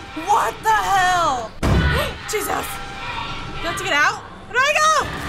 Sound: gasps

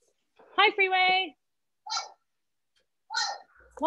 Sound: crow cawing

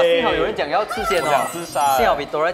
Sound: excited

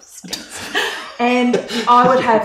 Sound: laughs

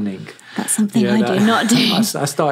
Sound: laughs

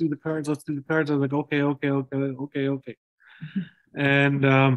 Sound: laughter

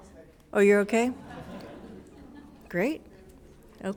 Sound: attendees laughing

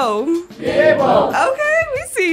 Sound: audience cheering: “Yebo!”

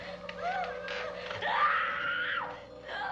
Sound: screams

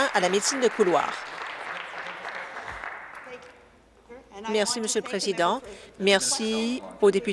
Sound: applause

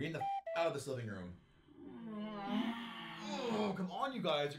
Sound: groans

